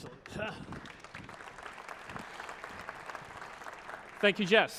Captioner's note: applause